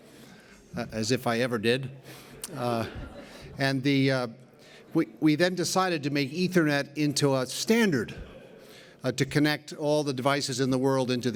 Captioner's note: laughter